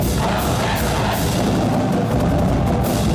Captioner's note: crowd